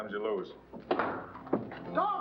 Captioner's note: doors bursting open